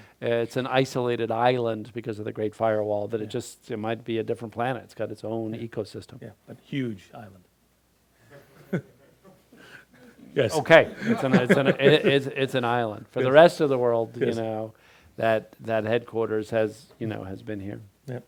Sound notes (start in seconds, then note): 8.6 crowd laughing